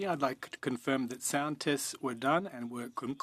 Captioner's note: speaking in French